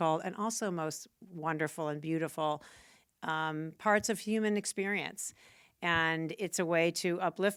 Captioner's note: none